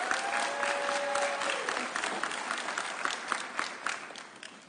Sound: audience cheering

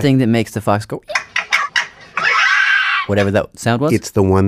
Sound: fox chirping sound

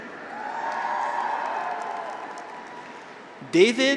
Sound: graduates cheer; audience applauds

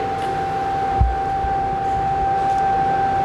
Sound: louder machine whirring

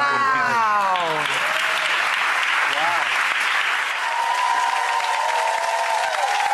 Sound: audience applauding and cheering

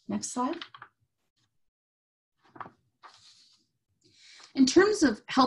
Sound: paper shuffling

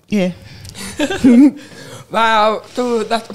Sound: chuckles

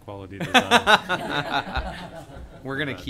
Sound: laughter

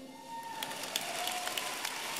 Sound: applause

